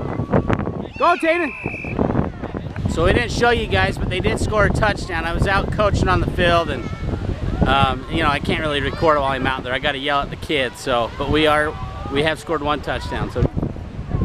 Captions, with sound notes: Go Tayden! (whistle blowing) So I didn't show you guys but they did score a touchdown, when I was out coaching on the field, and you know, I can't really record while i'm out there, I gotta yell at the kids. But we have scored one touchdown.